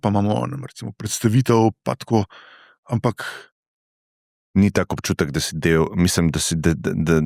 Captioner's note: sigh